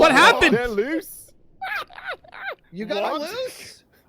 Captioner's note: laughing still